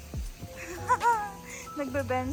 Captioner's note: chuckles nervously